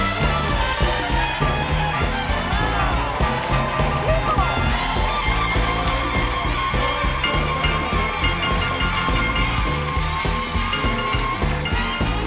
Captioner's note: cheers and applause